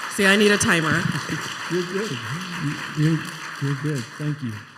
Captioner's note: applause